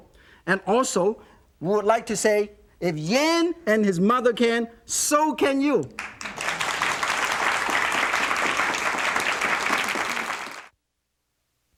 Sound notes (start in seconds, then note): 5.9 audience clapping